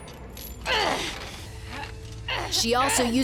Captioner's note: grunting